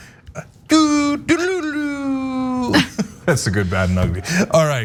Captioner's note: laugh